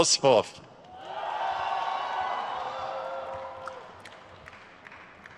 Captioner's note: crowd cheers